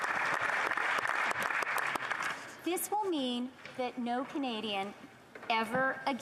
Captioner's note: applause